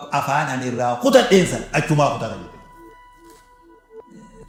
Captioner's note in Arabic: ضحك